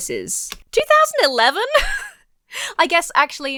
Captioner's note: laughs